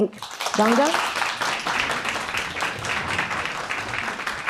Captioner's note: applause